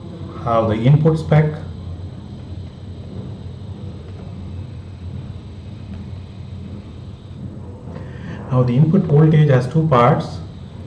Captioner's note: wave